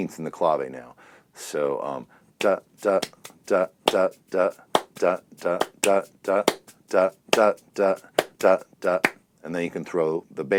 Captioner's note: vocalizes rhythm